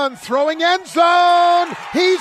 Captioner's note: applause